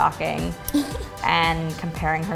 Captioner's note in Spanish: se ríe